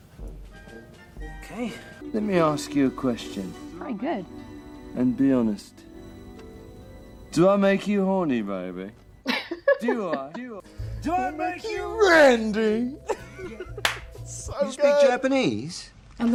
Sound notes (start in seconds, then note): 9.2 laughs; 12.9 laughs